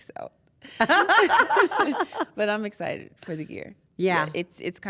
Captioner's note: laugh